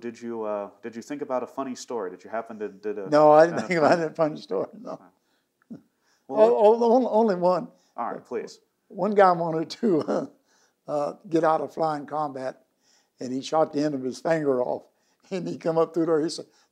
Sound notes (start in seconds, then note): 2.9 laughing; 6.1 laughing; 9.8 laughing